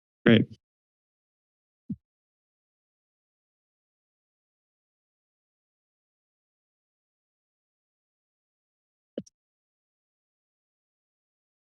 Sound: silence

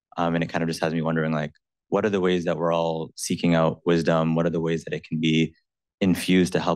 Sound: none

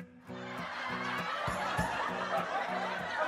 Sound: TV audience laughter sounds - indistinctive

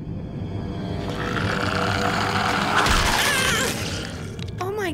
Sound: growling, screaming

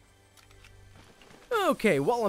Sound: gun reloads

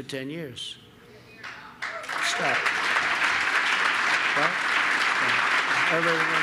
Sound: applause

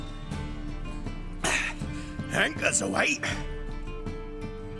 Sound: gasp

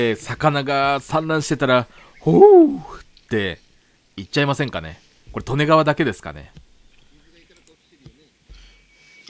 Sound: cry

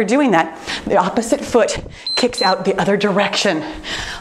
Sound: timer beeps

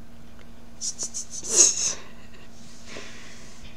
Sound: laughing

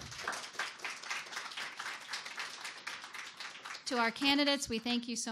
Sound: audience applause

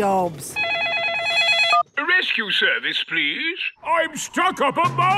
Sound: phone ringing

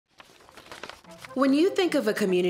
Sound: papers rustling

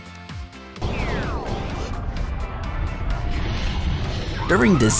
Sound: lightning, wind, and alarm sounds

